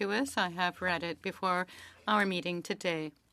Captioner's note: speaking French